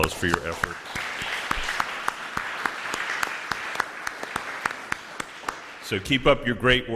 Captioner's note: applause